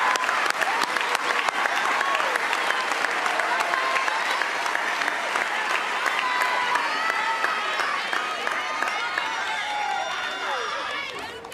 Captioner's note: cheers and applause